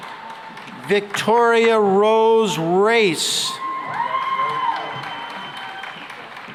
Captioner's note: cheering and applause